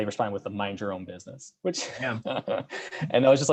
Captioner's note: laughs